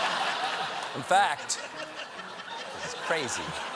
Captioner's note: laughter